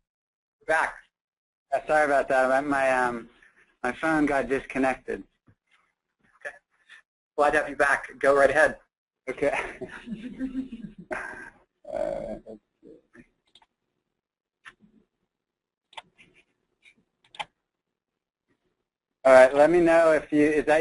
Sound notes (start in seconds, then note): 12.5 laughing